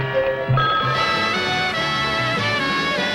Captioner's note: clock alarm ringing; big band music